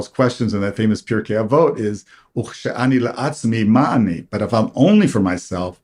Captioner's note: hebrew